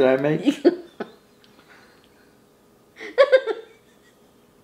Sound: laughing

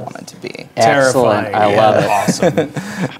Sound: chuckles

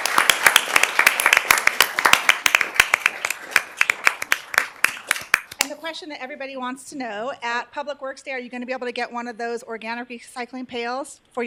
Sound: applause

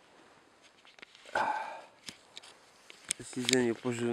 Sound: sights sadly

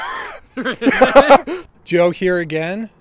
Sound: maniacal laughter

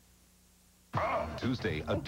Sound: Tim Allen makes macho grunt

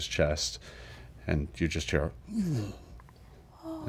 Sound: groan

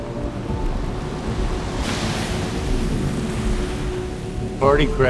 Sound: cars whir

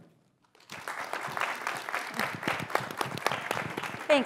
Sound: applause

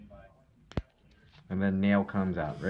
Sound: nail cracking

